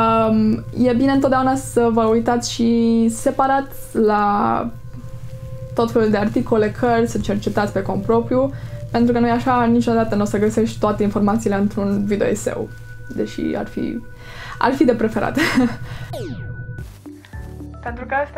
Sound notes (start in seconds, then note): 15.3 laughs